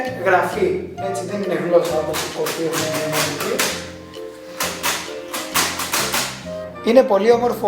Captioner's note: braille Typewriter Sound